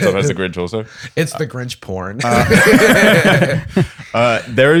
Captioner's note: laughter